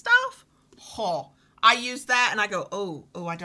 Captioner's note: scoffs